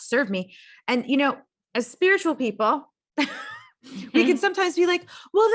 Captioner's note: laughs